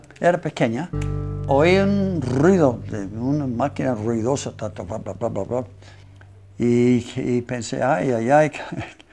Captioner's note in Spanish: sonido máquina